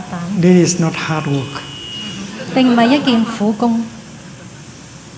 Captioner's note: laughter